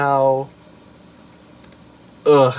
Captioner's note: click